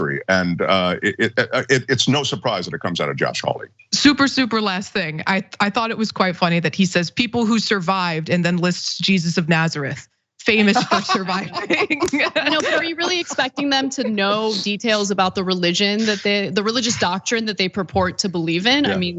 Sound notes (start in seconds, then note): 10.5 laugh